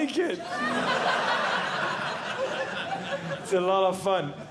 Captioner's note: audience Laughing